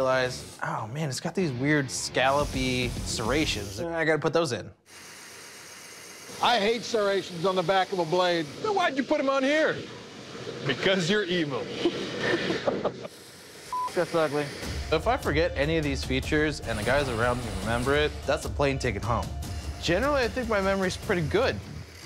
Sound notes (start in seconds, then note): 11.6 laughs